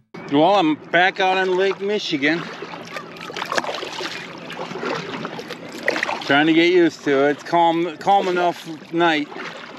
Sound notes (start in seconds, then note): 4.1 water splashing